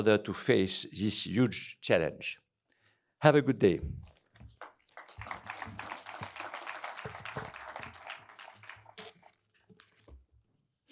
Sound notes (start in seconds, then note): 4.4 applause